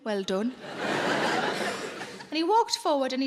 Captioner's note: audience laughing